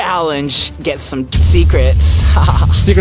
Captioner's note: laughing